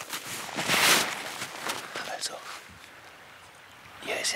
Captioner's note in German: flüsternd